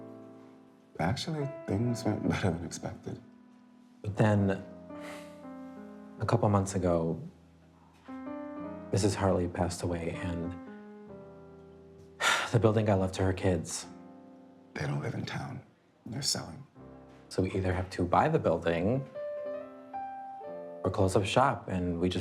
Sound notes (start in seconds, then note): 12.2 exhaling; 18.8 poignant music